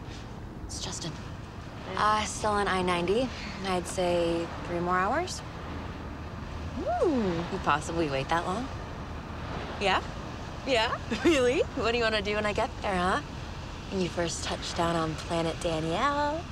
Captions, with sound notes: It's Justin. Uh, still on I-90. I'd say three more hours. Ooh! Can you possibly wait that long? Yeah? Yeah? [ Chuckling ] Really? What do you want to do when I get there, huh? When you first touch down on Planet Danielle.